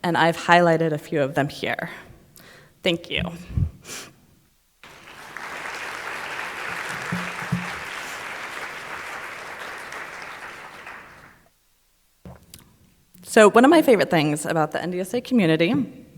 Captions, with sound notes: and I've highlighted a few of them here. Thank you. (audience applauding) So one of my favorite things about the NDSA Community,